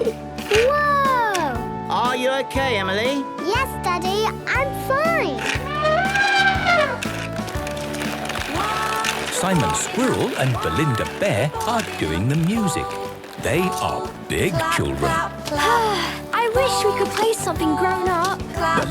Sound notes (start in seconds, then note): 6.0 trumpeting; 15.6 Belinda sighing